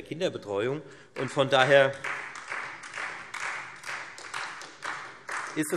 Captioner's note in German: Beifall Freie Demokraten, SPD und DIE LINKE